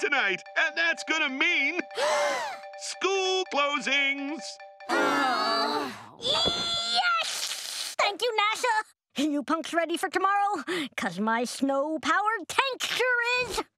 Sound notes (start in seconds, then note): 1.9 everyone gasping; 4.9 everyone sighing